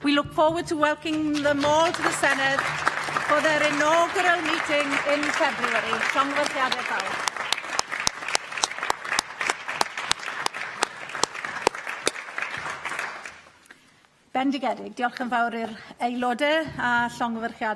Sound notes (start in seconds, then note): 9.7 applause